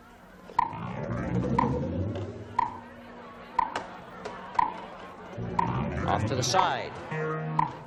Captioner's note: clock ticking